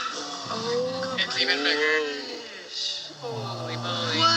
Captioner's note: scientists gasping; gasps